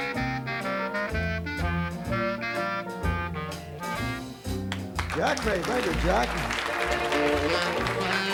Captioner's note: applause